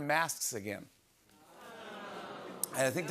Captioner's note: audience groans